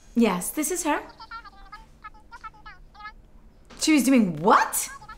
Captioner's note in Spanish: voz por teléfono; voz por teléfono